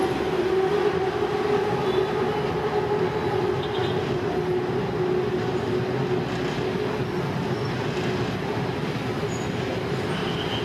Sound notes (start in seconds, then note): 2.0 cars hooting